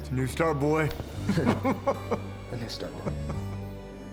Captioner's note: chuckling happily